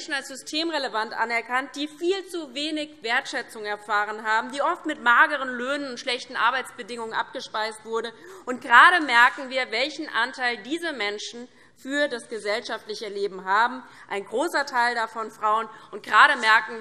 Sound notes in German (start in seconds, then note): none